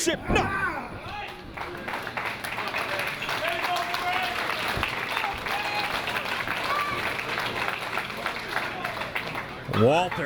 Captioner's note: applause